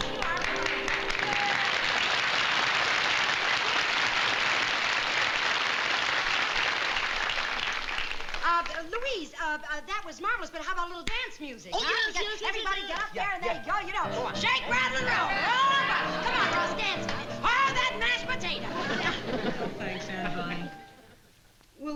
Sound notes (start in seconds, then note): 2.7 applause